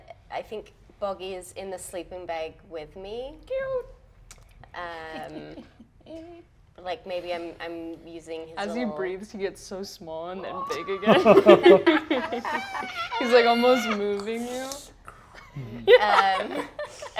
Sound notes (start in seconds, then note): 5.1 chuckles; 10.8 cast laughing; 15.3 laughs